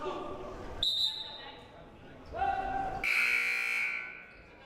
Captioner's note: whistle blaring; buzzer blaring